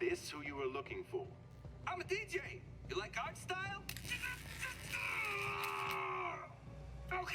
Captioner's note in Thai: เสียงไฟฟ้าช็อต